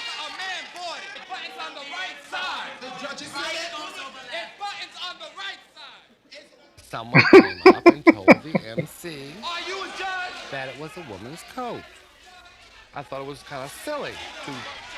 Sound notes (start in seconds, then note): 7.1 laughing